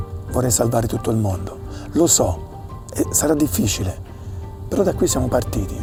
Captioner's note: continues speaking Italian